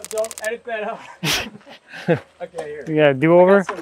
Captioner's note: laughing